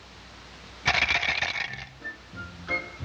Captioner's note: ice cracking; brain rattling; playful music